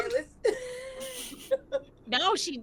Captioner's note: laughing